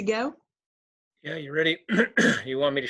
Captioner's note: clearing throat